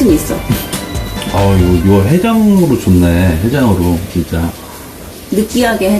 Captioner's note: talking